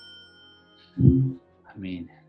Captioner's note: alexa request sound